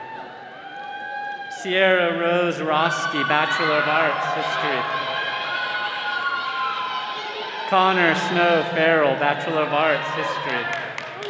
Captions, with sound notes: Sierra Rose Roske, Bachelor of Arts, History. (all cheering) Conor Snow Farrell, Bachelor of Arts, History.